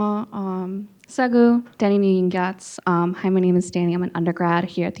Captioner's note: speaking in foreign language